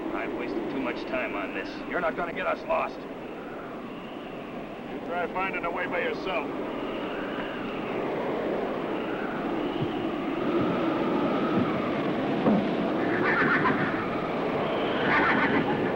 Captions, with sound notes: I've wasted too much time on this. You're not gonna get us lost. - You try finding the way by yourself. (strong wind howls) (horse neighs)